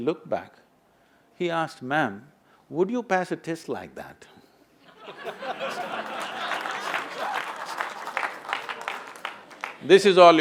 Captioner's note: laughter/Applause